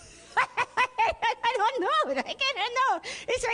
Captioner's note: laughter